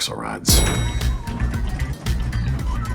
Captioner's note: elevator dings; dramatic music